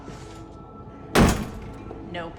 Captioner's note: door lock clanging